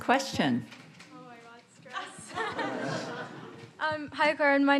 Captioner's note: audience laughing